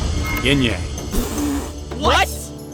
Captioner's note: spit